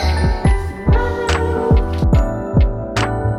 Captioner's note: gasps